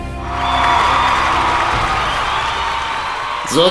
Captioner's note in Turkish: Alkış